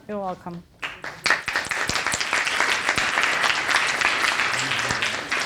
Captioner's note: audience applauding